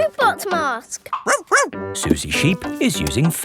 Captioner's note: barks